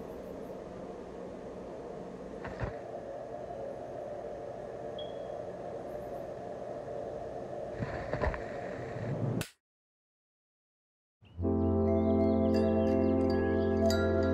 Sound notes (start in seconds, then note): 5.0 fire alarm chirping; 11.3 mellow music